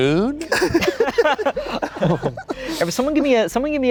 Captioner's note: everyone laughing